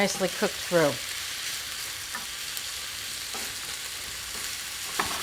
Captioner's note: mixture sizzling